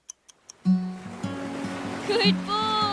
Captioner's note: waves lapping; gentle music